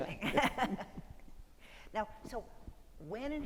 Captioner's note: Steele and Louboutin laugh in unision